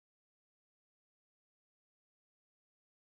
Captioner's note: none